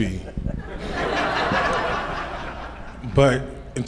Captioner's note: audience laughs